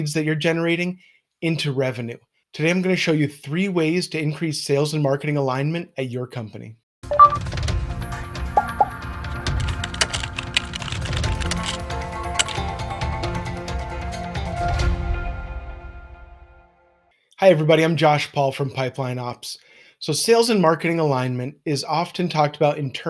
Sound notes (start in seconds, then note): 7.1 dramatic music; 9.5 keyboard clicking; 9.6 popping